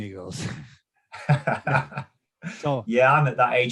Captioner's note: laughs